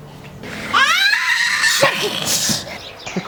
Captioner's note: toddler scream